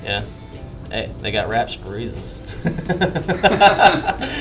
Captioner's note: laughing